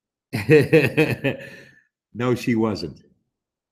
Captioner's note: laughs